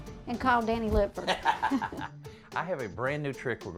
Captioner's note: both laugh